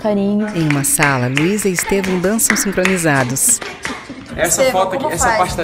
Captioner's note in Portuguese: palmas ao fundo; faz ritmo de funk com a boca